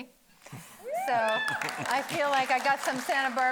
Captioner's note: audience cheering